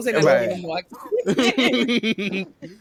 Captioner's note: laughter